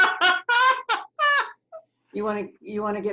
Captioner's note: laughs